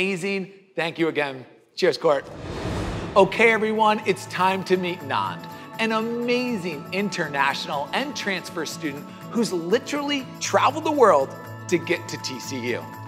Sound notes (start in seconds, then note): 2.2 air swooshing